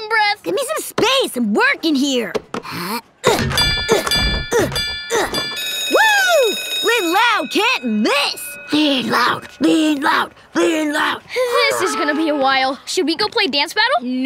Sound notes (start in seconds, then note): 3.2 groaning and dinging; 5.1 bell ringing